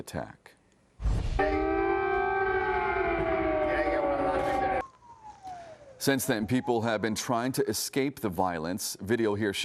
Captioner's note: sirens